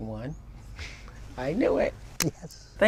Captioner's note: laughs